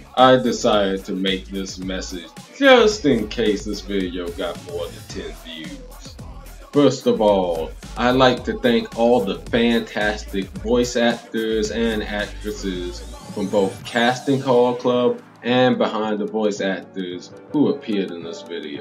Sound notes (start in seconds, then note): none